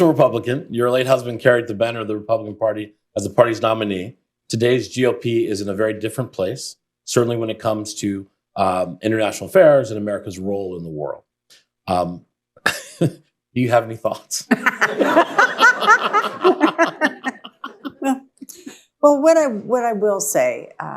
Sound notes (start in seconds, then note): 14.5 laughs; 17.8 laughter